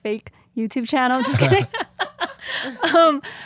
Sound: laughing

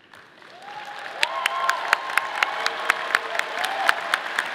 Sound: audience applauding

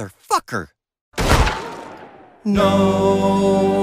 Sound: gun shot

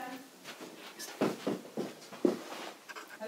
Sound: person knocking on door

